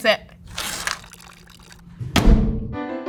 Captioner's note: paper tearing; water splashing; door slamming